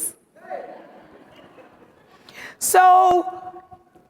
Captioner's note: audience chattering and laughing